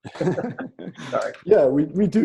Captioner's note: laughing